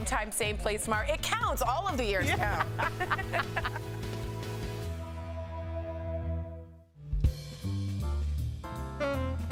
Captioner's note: laughter